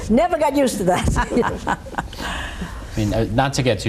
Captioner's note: all laughing